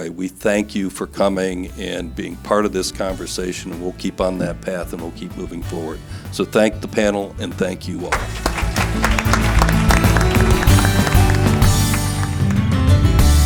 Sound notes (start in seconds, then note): 8.1 audience applause; 10.8 upbeat music